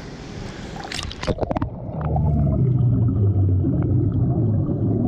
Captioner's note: water bubbling